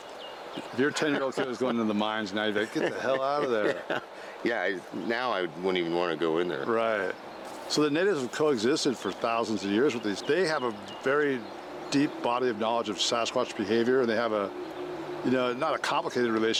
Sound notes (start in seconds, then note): 3.4 laughs